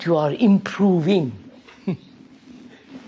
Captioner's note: laughs